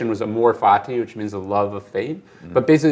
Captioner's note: foreign language